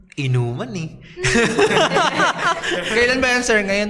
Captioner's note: laughs